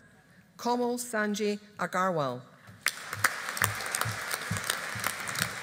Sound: audience applauding

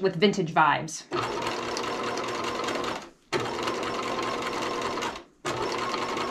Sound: sewing machine clunking

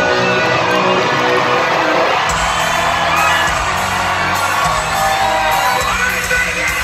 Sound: crowd cheering

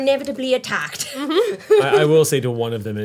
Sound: giggles

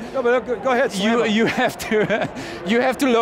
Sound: chuckling

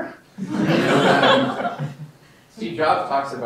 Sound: laughter

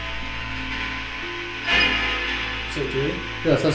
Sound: radio noise hissing continues

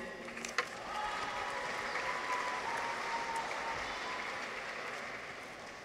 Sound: audience applauds; people cheer

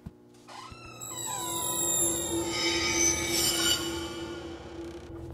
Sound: door creaking

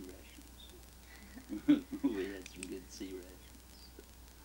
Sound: chuckles

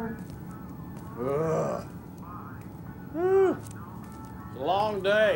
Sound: groans

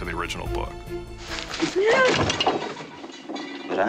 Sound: stuff clattering

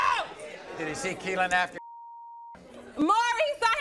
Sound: beep

